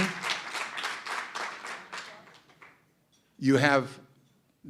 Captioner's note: applause